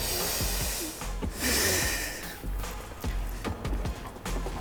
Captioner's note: heart pumping